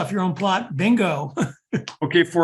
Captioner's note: laugh